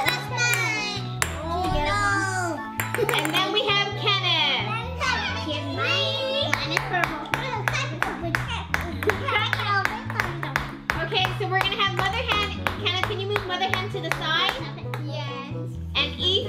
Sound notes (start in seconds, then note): 3.5 laughing; 6.8 egg whacking on table